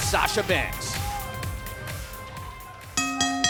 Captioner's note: bell ringing